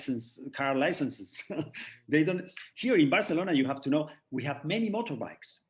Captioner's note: chuckles